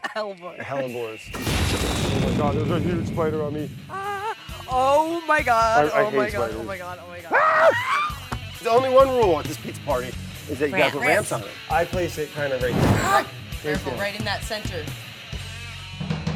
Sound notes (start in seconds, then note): 0.0 she laughs; 1.3 exploding; 7.3 screaming; 12.6 whooshing